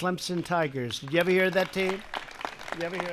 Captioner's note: applause